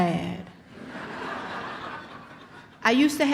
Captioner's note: audience laughs